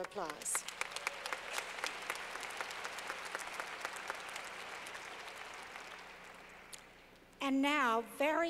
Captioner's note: clapping